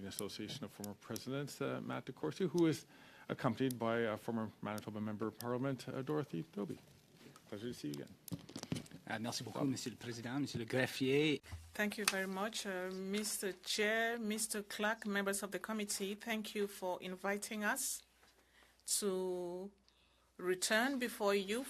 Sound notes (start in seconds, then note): 15.4 speaking French